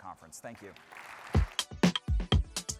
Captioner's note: applause